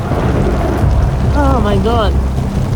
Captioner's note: thunder rumbling